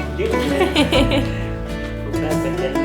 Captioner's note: laughter